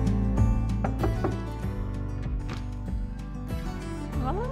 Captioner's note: knocking